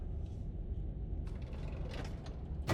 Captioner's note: heavy drawer closing